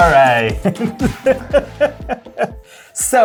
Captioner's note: laughter